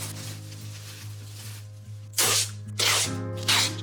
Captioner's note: plastic rustling; tape screeching